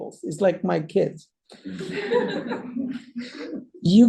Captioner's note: laughter